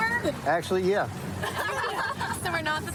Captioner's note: laughter